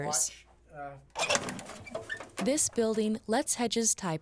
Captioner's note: opening film canister